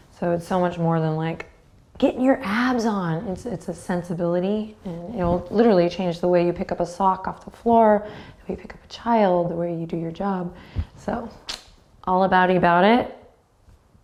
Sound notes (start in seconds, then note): 10.9 clicks tongue